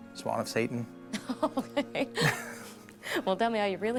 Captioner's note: laughing